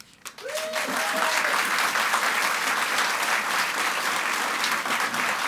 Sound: audience applauds and cheers

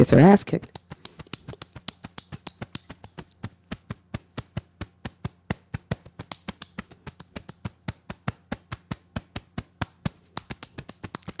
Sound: beating Chest

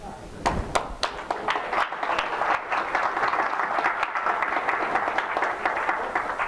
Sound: audience clapping

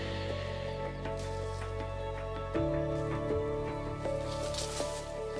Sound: leaves rustling

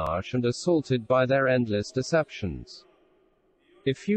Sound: voice reads

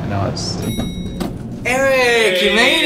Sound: bell ringing

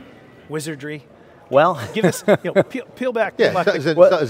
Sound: laughs

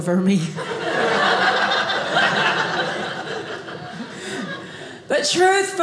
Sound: audience laughing

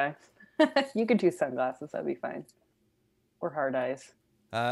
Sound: laughs

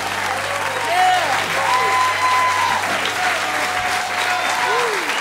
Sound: cheers and applause

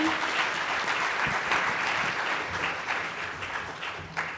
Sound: applause

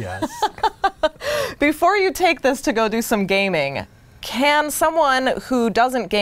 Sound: laughing

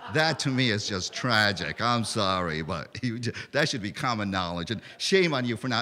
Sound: laughter

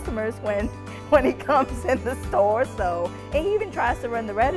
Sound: laughing

